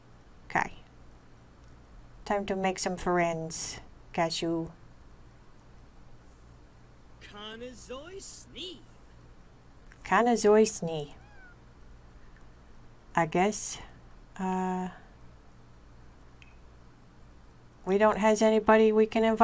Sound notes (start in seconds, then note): 3.3 Simlish